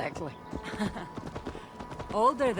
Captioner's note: laughs